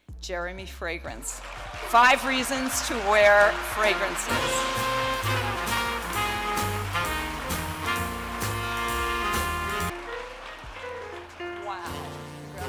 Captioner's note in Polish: Aplauz